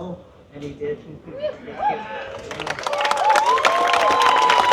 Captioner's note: applause